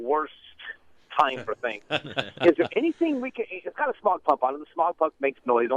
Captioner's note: both laugh